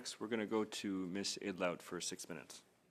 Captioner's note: speaking French